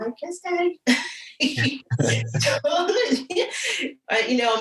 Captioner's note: both laugh